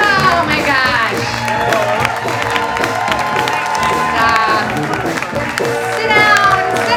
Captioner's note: audience applauding and cheering